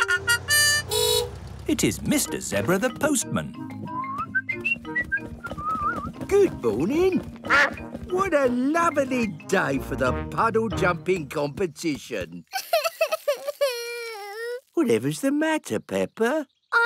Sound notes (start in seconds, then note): 0.0 horn honks; 7.4 quacks; 13.3 crying